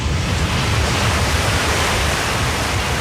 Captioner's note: water rushing